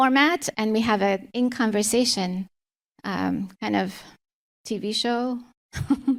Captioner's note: chuckles